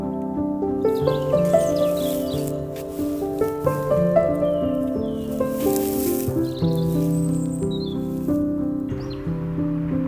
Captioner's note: crunchy